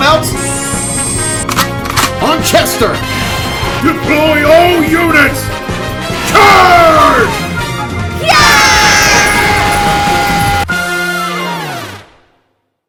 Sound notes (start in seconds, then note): 8.2 Battle cries of Nutmageddon